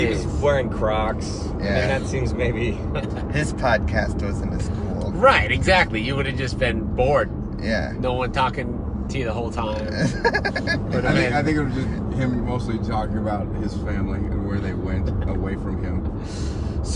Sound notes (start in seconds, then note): 9.8 laughs